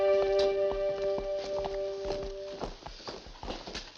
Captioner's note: footsteps